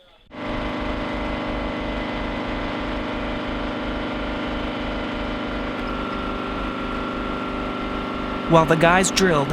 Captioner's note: machinery running